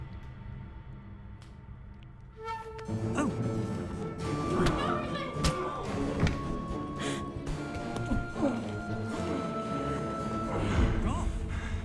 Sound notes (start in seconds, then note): 6.7 dramatic music; 7.9 grunting